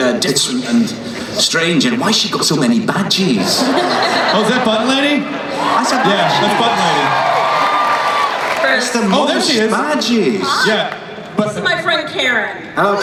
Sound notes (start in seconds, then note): 7.2 cheering; 10.9 voiceover